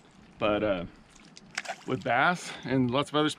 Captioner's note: fish splashing